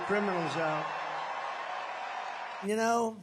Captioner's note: crowd cheering